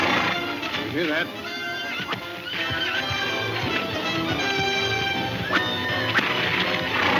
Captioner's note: horse neighing; whip snapping